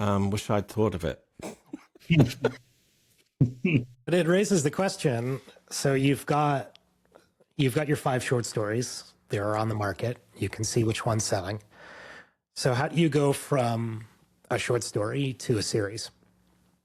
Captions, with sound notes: Wish I'd thought of it. (laughs) But it raises the question, So you've got your five short stories. They're on the market. You can see which one's selling. So how do you go from a short story to a series?